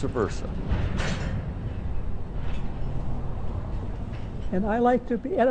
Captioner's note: connecting train cars clang